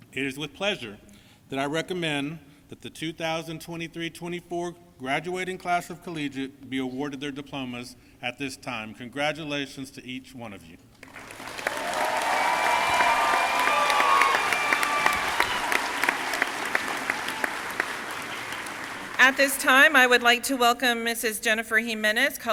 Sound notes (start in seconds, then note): 11.0 crowd cheering and applauding